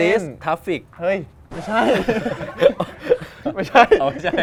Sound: laughs

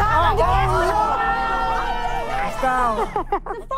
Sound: contestants shouting

